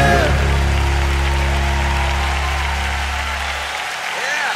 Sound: cheers and applause

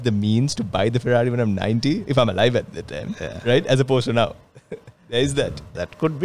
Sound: laughs

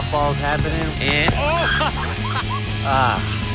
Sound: yelling in pain

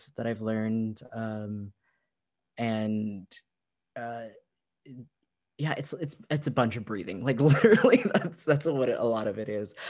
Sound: laughter

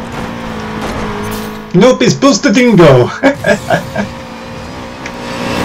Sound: snickers

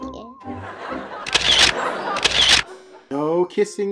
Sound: audience laughs

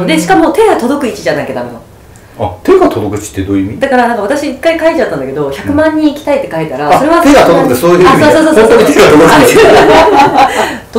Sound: laughs

